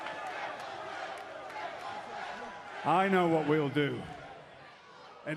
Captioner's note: crowd chatter